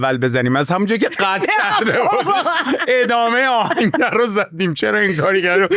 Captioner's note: laughs